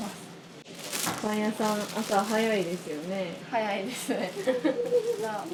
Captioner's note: laughs